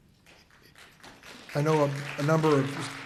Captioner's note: audience applauds